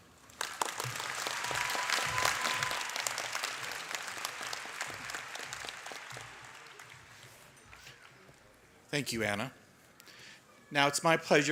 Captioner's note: applause